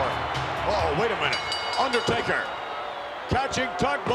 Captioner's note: bell ringing